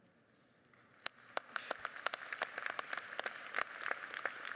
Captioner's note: audience applauding